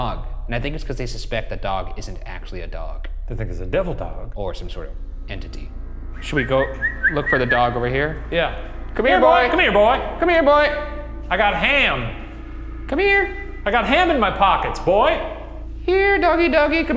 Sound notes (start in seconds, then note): 6.2 whistles